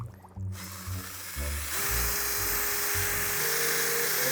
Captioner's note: drill whirring